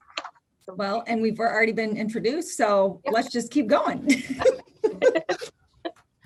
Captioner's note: laughs